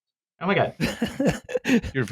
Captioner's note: laughs